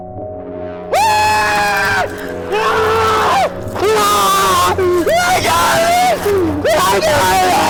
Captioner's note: loud screaming; screaming